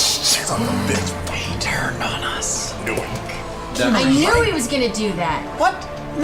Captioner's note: gasps